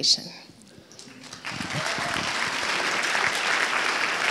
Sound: applauds

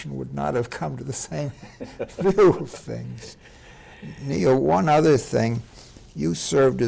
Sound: laughing

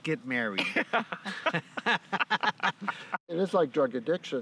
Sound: laughing

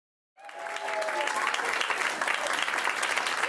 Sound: audience applaud

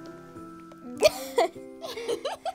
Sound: laughing

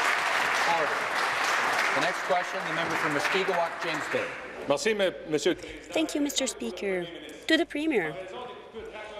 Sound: applause

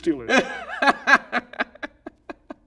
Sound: laughing

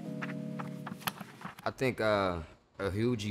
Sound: book pages flip

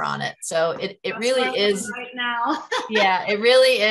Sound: laughs

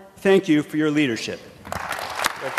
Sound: applause

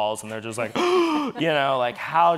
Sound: gasping

